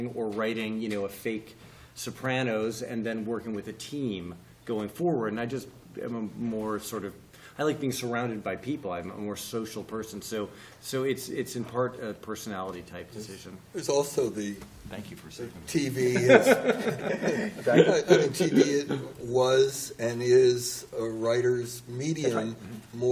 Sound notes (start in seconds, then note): 16.1 laugher